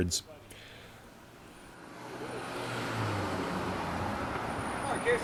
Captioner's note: vehicle passing